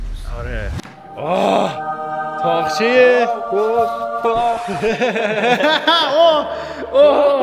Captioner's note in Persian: خنده